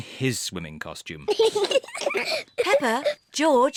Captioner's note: both laugh